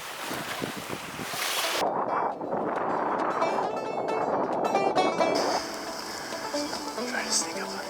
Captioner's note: wind blowing